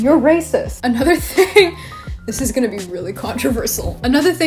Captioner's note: laughs